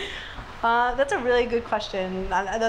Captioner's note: laughs